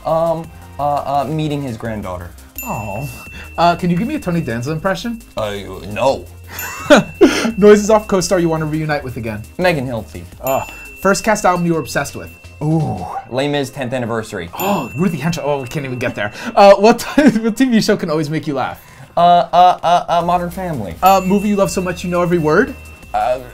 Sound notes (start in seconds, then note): 2.4 bell dings; 6.6 laughs; 10.3 bell dings; 20.9 bell dings